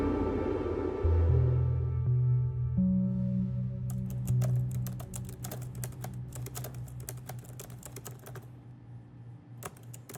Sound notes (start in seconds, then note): 3.9 keyboard keys clacking; 3.9 computer chimes